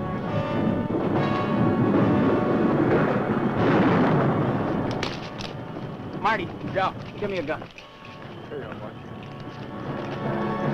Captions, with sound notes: (thunder roaring) Marty. - Yeah. - Give me a gun. - Here you are partner.